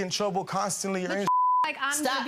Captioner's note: beep